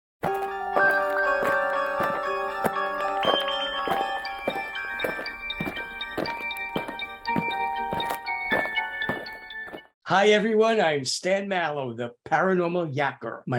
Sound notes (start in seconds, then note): 0.2 eerie music; 5.0 aliens marching